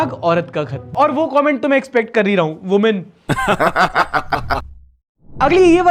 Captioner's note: laughter